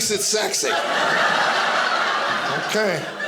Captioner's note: audience laughing